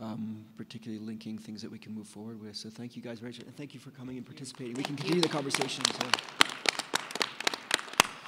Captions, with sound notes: particularly linking things that we can move forward with, so thank you guys, great job and thank you for coming and participating. (applause) We can continue the conversation, as well.